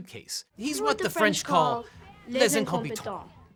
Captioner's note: speaking in foreign language